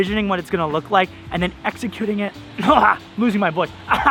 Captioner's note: clears throat